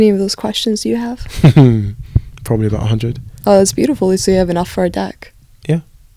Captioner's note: laughs